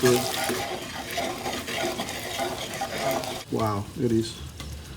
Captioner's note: pan scraping